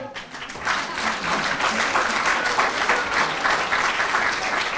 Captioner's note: applause